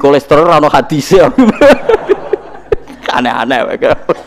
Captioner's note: all laugh